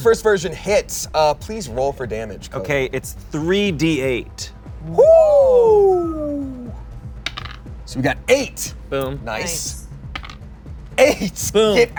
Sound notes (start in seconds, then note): 4.8 all exclaim; 7.2 die rolls